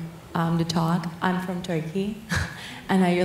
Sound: laughs

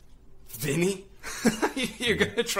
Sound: nervous chuckle

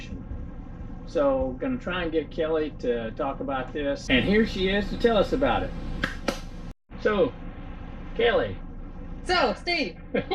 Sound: clap sound

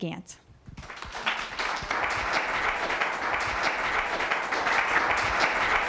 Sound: applause

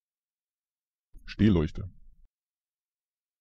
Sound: fast Pronunciation

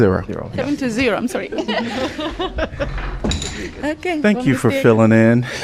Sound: laughter

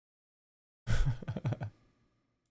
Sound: chuckles

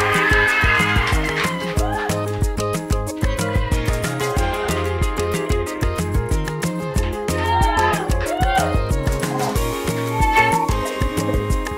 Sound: cheering

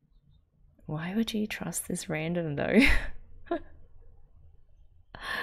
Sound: laughs

